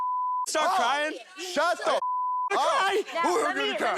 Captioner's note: beep; beep